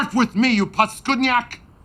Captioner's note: speaking in foreign language